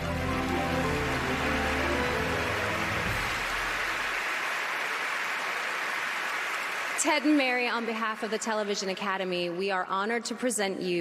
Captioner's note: applause